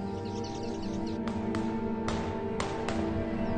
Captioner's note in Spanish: Disparos constantes